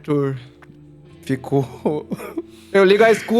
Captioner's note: sad Laughter